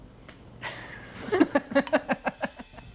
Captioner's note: laughs